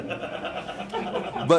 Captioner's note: chuckling